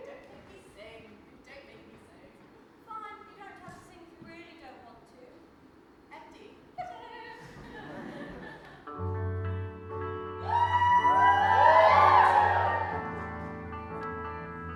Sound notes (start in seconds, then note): 7.5 audience laughs; 10.4 audience cheers